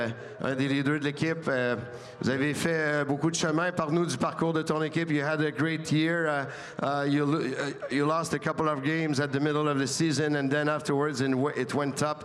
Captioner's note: speaking French